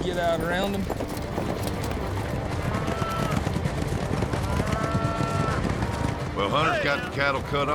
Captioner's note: fast hoofbeats